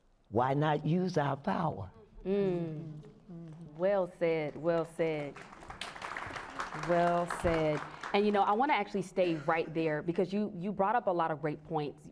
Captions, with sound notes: Why not use our power? Well said, well said, (applause) well said. And you know, I want to actually stay right there because you brought up a lot of great points.